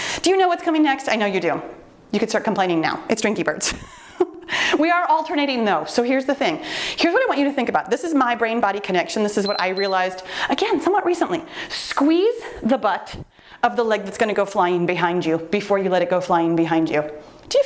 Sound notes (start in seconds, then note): 9.4 timer beeps